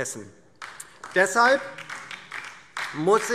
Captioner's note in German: Beifall DIE LINKE